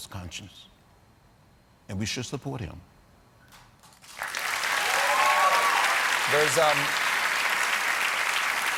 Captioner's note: applause